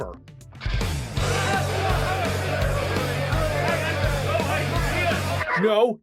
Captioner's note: crowd protesting